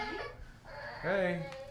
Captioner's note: kid crying